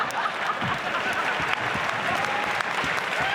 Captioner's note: audience laughs; cheers/applause